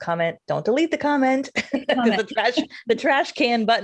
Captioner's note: laughs